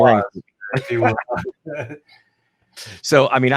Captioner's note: both laughing